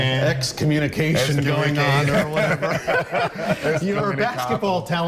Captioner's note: laughter